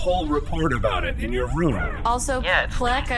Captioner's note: cheeps and powerup sound effects